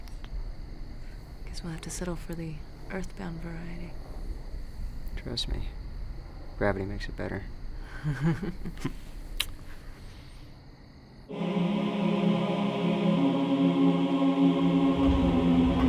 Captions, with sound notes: - I guess we'll have to settle for the Earthbound variety. - Trust me, gravity makes it better. (both chuckle) (angelic, harmonious choir singing)